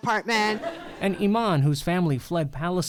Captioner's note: laughter